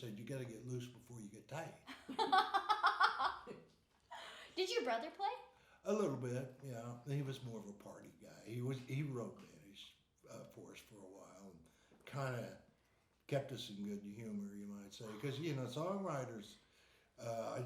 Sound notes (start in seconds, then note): 1.8 laughing